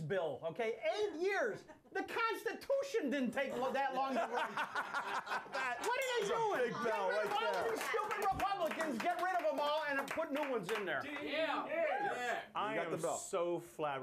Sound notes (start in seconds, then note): 6.9 laughter; 7.0 bell Rings